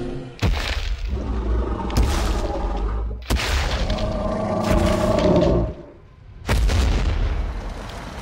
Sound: Apatosaurus stomps and growls

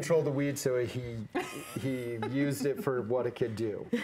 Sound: laughing

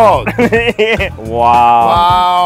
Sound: laughs

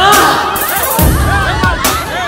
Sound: crowd screaming

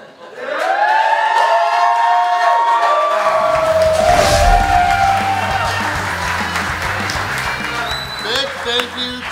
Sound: cheering & Clapping

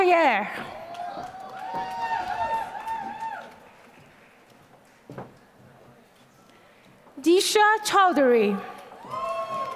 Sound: applause; applause

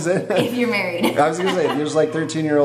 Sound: laughs

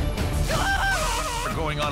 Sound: screaming

